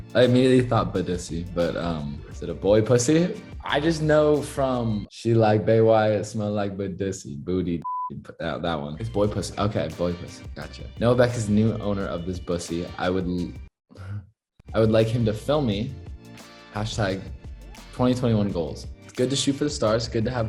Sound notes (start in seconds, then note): 7.8 beep